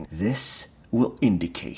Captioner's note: none